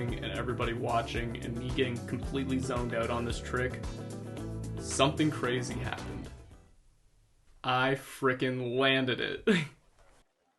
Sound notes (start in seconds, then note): 6.1 music stops